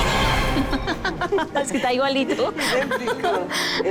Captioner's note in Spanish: Risas